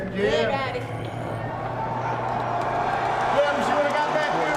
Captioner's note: crowd cheering